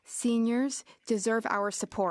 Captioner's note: speaking French